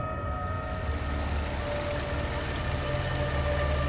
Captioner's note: water rushing